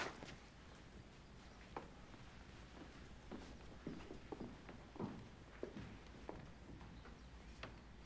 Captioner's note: footsteps